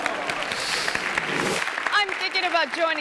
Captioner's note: audience clamoring; audience clapping; screen whooshes